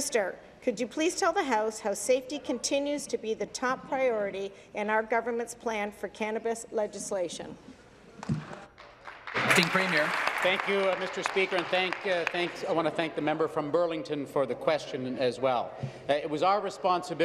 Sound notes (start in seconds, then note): 11.2 applause